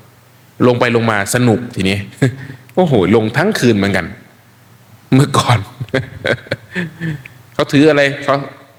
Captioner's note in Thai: เสียงหัวเราะ